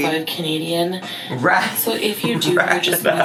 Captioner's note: laughs